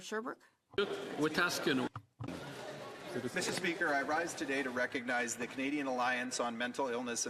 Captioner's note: speaking French